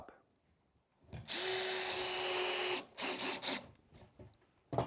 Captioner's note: screw gun